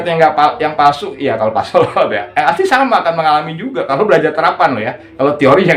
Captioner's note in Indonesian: tertawa